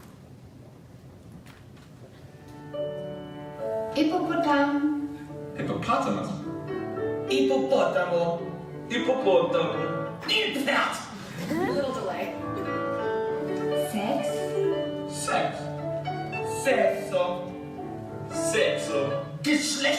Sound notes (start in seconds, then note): 6.0 speaking English; 7.7 speaking Italian; 8.9 speaking Spanish; 10.3 speaking German; 15.5 speaking English; 16.7 speaking Italian; 18.3 speaking Spanish; 19.8 speaking German